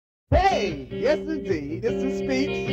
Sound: speech

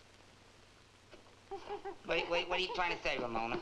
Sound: gorilla chittering

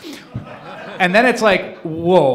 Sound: laughing

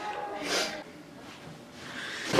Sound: sniff

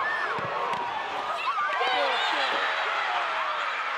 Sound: cheering

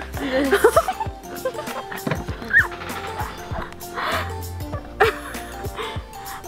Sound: laughing

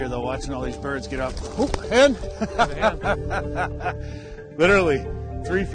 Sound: laughs

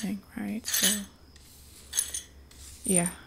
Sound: sweeping glass

